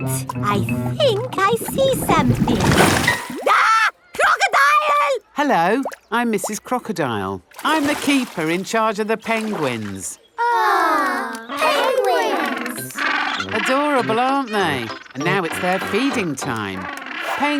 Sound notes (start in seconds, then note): 3.4 screams; 11.2 penguins chatter